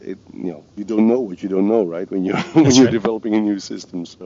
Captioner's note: laughs